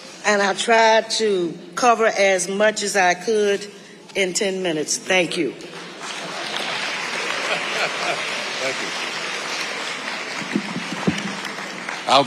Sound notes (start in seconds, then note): 5.7 audience applauding; 6.2 laughing; 10.2 audience applauding